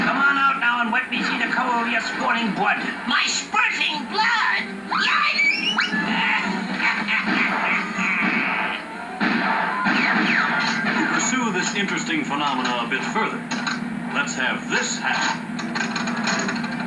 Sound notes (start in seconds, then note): 6.7 laughing Evilly